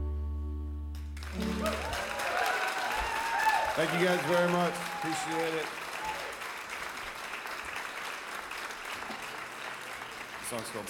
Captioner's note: applause